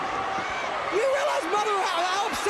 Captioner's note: crowd cheering